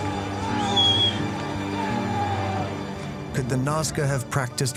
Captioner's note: crowd shouting